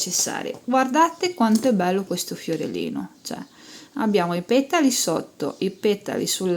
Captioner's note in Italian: sbuffare